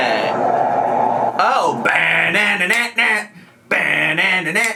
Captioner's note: vocalizes